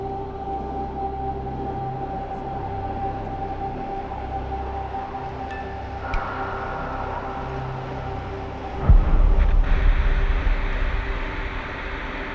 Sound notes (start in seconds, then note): 3.8 ominous music continues; 6.1 lights clicking; 9.4 static hissing